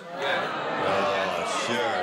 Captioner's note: audience groaning